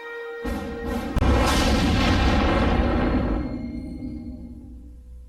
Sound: dramatic sounds

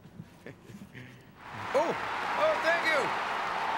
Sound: applause

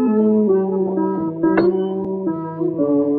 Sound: thud

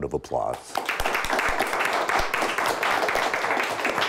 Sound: applause

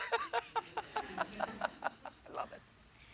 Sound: laughter; laughs

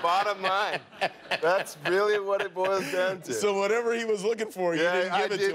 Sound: laughter

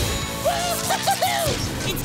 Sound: cheering

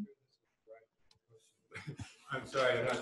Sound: pause

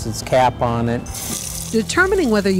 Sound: water running

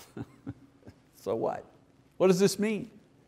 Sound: chuckles

